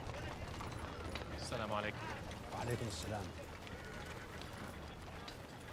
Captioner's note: both speaking in arabic